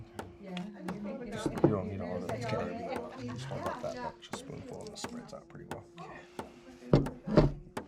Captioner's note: audience background chatter